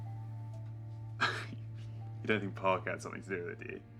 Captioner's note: laughs